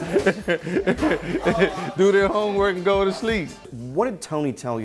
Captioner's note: laughs